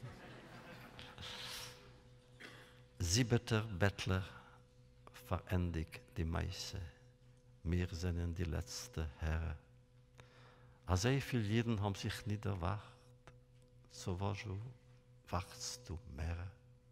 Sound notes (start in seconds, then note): 0.0 laughter; 2.9 Yiddish